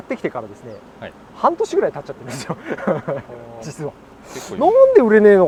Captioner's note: laughs